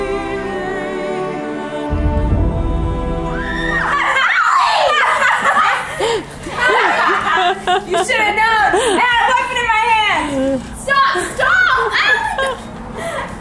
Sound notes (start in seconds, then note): 3.3 screaming; 5.2 laughing